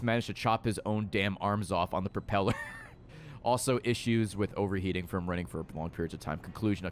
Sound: laughs

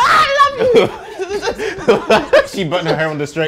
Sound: both laughing

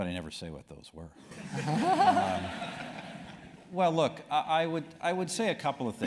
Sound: laugh

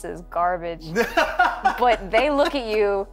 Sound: laughter

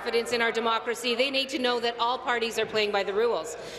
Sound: applause

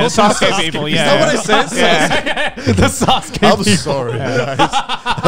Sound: group chattering

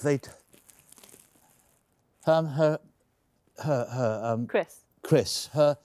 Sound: stammering

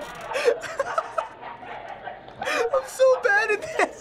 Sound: laughs; snickers

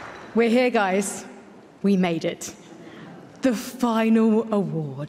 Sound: applause

